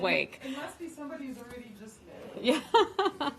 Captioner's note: laughter